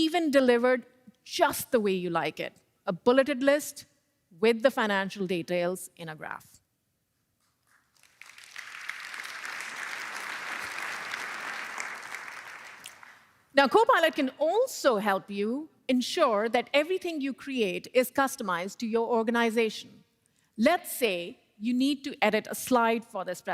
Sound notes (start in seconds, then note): 12.3 applause